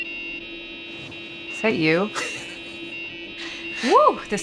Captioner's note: chiptune retro music; laughs